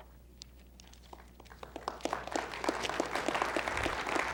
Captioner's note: applause